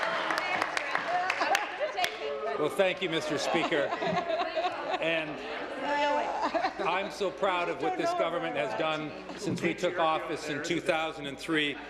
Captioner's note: applause